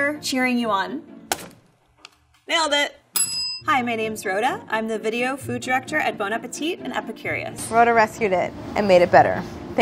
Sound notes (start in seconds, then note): 3.1 bell ringing